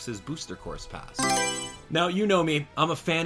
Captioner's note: Mario Selection Sound